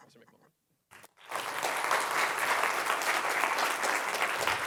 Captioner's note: applause